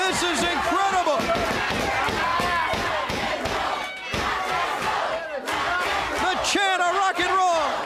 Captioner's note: crowd cheering